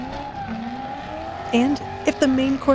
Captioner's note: laughing